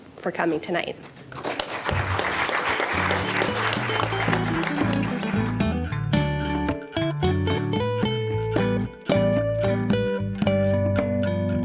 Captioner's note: applause